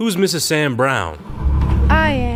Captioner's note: chair moving